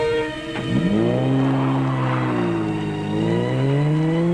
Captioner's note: engine roaring